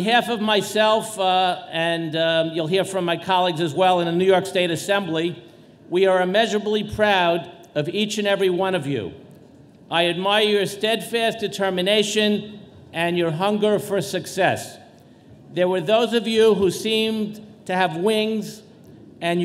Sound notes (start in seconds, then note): none